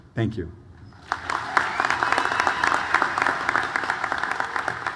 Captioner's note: audience applauds